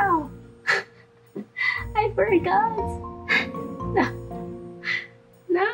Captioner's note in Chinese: 笑瘋